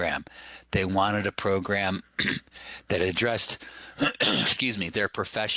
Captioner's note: clears throat